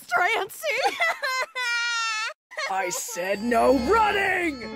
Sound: Strancy crying

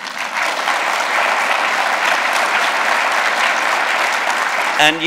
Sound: applause

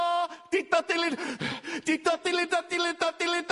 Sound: gasp

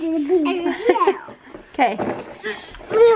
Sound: laughing

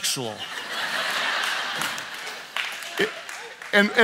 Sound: audience laughs and claps

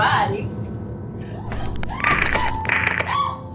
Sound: dramatic music; video disturbance; Fiona screaming

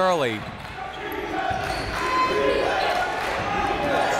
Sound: crowd

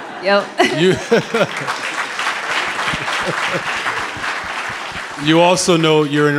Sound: audience clapping

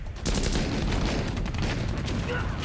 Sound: gunshots

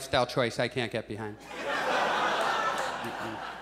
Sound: audience laughs

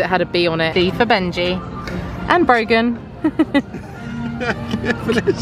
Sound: laughs

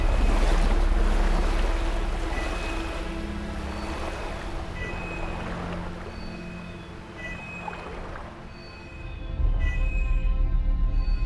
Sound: medallion Beeping

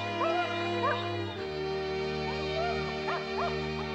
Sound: whimpering

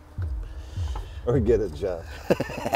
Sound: words booming; laughs

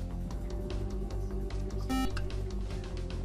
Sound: buzzer

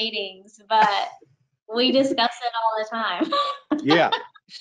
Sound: laughs

